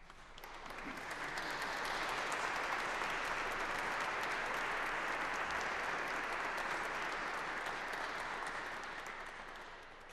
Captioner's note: applause